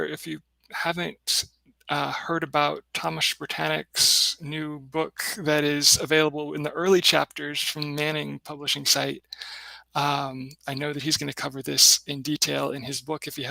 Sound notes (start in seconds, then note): none